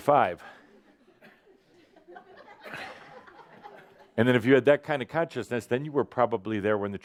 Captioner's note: some laughter